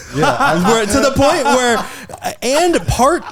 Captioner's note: laughing